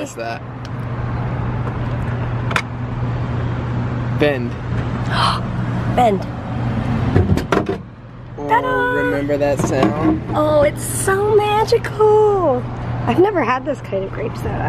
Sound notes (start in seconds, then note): 4.5 gasp